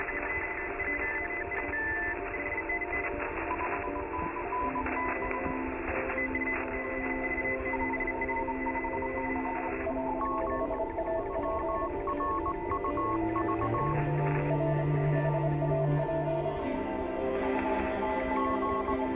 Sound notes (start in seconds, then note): 1.4 beeping and whirring; 1.4 melancholic strings music